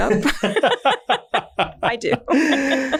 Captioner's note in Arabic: كلاهما يضحك